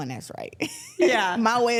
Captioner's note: Claressa laughs